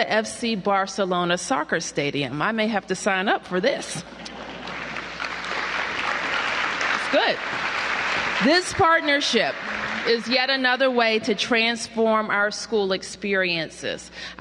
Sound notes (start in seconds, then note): 4.3 applause